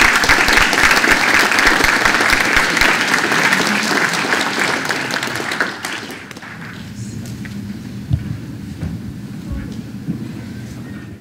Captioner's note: applause